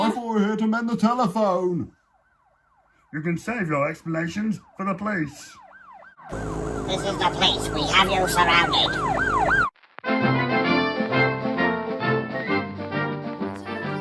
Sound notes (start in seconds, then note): 8.3 police siren; 9.0 motorboat; 10.0 old-time music